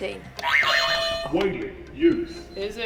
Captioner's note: buzzer 2